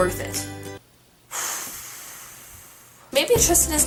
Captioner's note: exhale